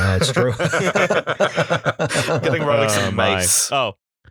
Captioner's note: laughter